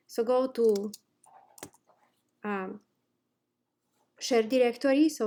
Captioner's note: instructor typing